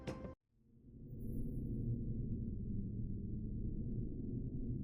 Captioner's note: low humming